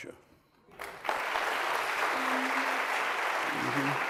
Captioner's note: applause